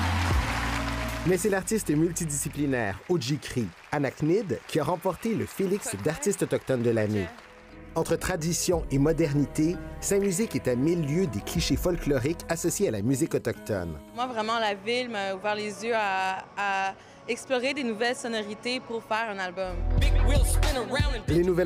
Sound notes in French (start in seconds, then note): 0.0 applaudissements